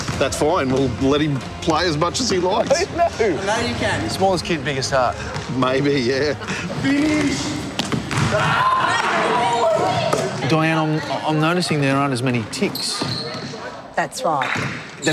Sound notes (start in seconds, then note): 8.3 children cheering